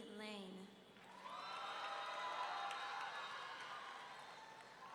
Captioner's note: audience cheering